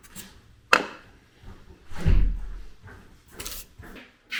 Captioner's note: level clanks